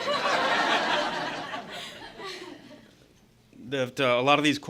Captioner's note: laughter